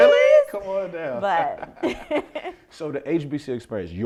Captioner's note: laughs